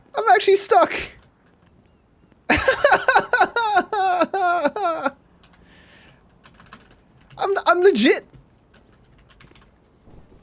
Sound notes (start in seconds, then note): 2.5 laughs